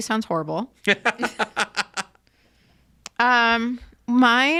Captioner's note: laughs